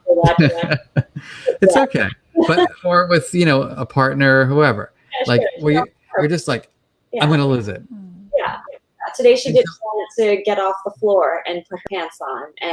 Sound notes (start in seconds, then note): 0.2 chuckles